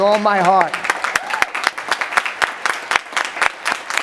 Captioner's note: cheering